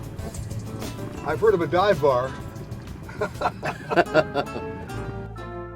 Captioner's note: laughing